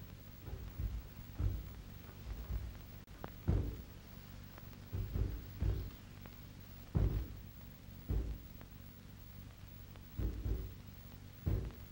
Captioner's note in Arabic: اصوات دق ناعمة